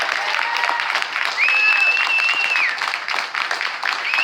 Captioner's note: cheers and applause